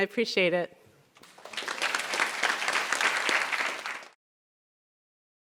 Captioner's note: applause